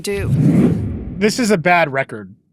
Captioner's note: audio whooshes